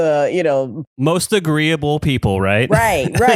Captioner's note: laughs